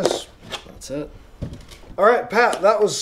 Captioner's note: pat